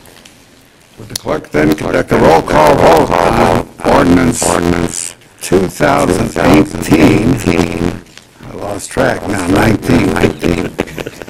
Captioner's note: laughter